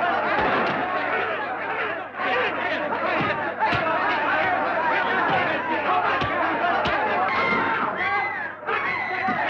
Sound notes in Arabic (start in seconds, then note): 4.0 يستمر الحشد في الصراخ بحماس